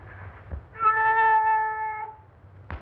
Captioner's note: cat meowing